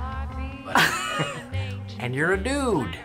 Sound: Erin laughs

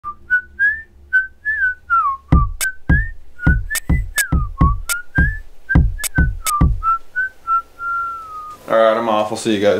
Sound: whistles

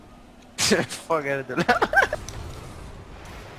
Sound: laughs

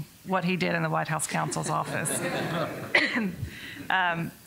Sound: laughter

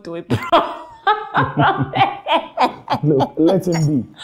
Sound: laughter

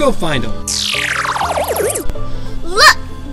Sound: spiraling descent tone

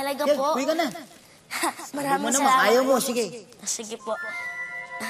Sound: chuckles

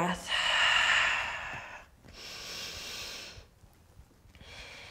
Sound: exhaling and inhaling

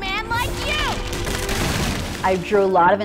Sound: ice cracking; whooshing water

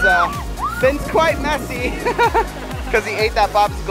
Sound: laughs

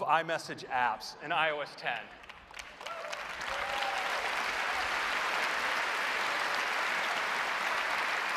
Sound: applause

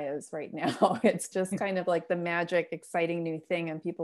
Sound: laughter

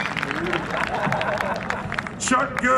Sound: cheering; applause; laughs

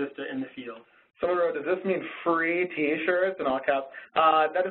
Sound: voiceover

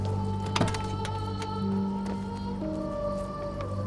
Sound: door opening

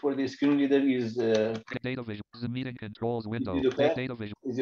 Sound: computer voice continues

